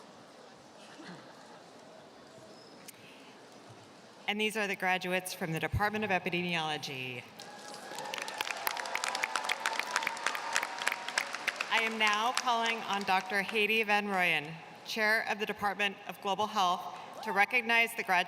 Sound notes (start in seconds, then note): 10.2 applause